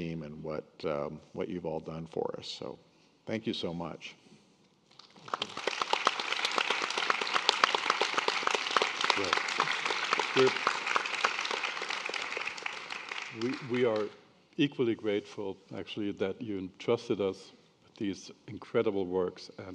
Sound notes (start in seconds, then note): 5.0 attendees and panelists applauding